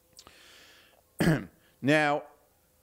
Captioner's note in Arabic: تطهير الحلق